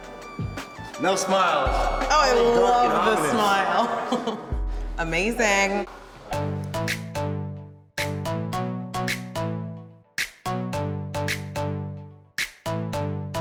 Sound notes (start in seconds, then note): 2.3 giggles; 6.3 upbeat tune plays